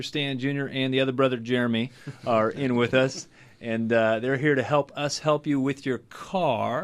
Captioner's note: group laughs